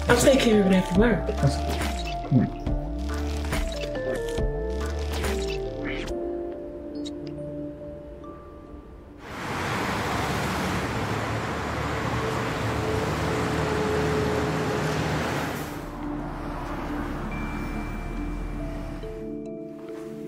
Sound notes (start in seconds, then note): 5.9 mysterious music; 9.6 traffic humming; 15.6 mysterious music continues